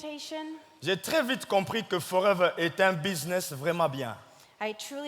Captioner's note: speaking in French